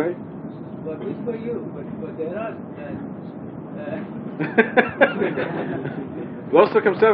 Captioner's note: mescitte gülüşmeler